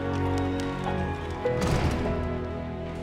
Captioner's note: door slams